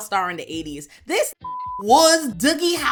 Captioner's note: beep